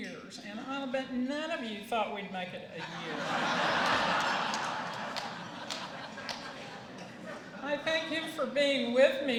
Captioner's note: laughter